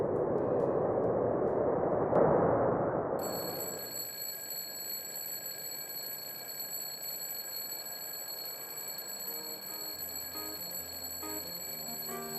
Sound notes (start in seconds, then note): 3.0 bell ringing